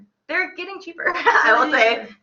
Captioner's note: laughs